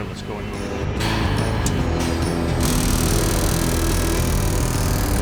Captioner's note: metal clicks